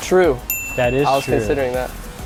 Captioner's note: bell Dings